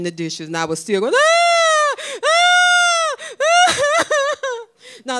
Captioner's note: crying